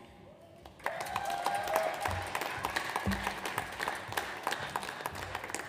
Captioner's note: audience applauds